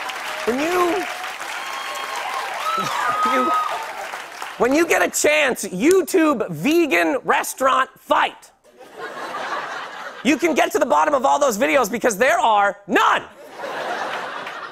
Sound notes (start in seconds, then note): 0.0 cheers and applause; 8.7 laughter; 13.4 laughter